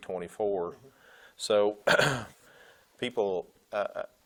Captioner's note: clearing throat